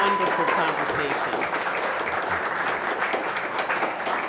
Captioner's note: applause